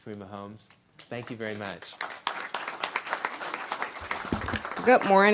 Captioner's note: applause